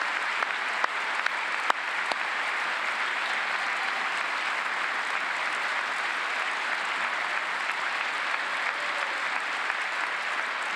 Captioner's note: cheers and applause